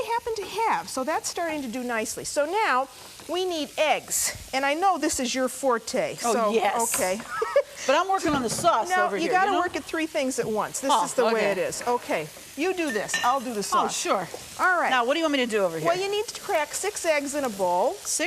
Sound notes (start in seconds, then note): 7.3 laughing